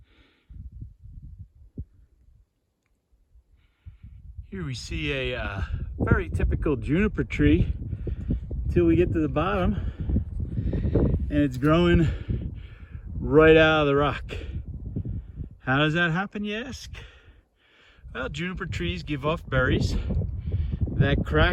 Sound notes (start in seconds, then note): 5.3 wind blowing